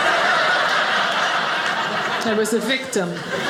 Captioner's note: audience laughing